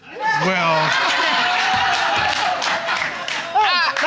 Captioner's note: audience laughing